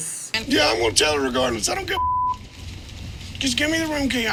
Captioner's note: beep